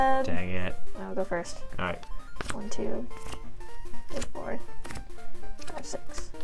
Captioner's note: mumbling counting to 7